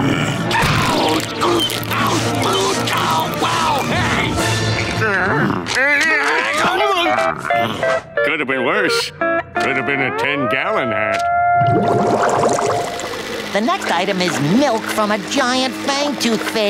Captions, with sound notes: [screaming] Hey! [groaning] Could've been worse, Could have been a ten gallon hat. The next item is milk from a giant fang toothfish.